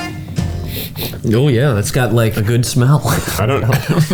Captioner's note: sniffs; both laugh